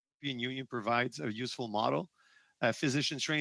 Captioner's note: speaking French